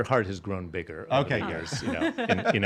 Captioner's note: laughing